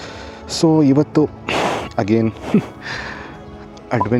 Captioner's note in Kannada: ಬುಸುಗುಟ್ಟುವಿಕೆ